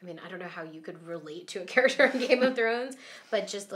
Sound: laughing

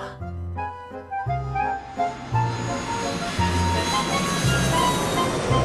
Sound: jet engine roars

